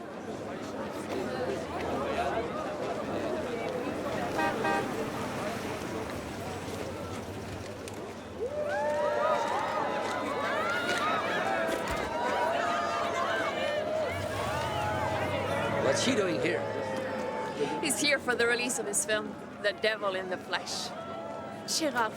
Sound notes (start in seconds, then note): 0.1 people chatter indistinctly; 4.2 horn honks; 9.0 crowd cheers